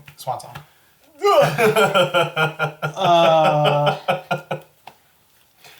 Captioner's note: strained battle noises